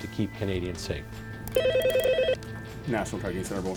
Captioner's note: phone ringing